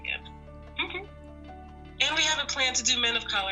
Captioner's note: laughs